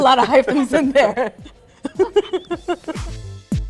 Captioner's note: laughing